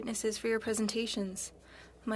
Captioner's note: speaking french